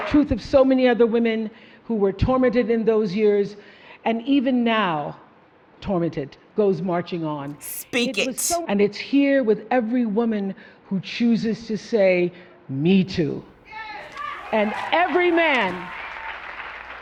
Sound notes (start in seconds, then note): 14.0 crowd cheers